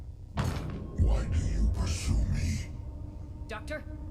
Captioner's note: continuing in a deeper voice